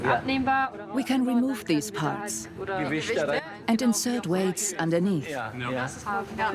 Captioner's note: dubbed in English